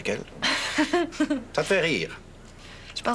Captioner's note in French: Rire